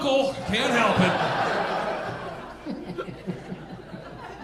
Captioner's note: audience laughing